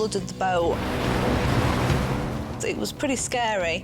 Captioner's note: waves rustling